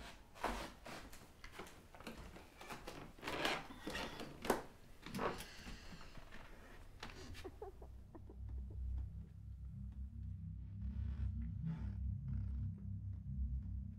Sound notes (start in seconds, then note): 0.4 wood creaking underfoot; 7.1 muffled child crying; 10.5 wood creaking